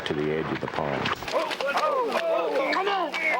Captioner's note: men exclaiming